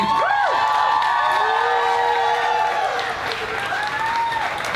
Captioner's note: clapping and cheering